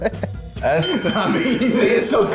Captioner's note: ding; laughs